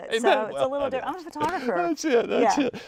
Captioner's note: laughing